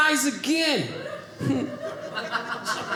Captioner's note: audience laughing